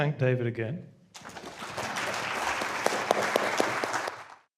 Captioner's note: applause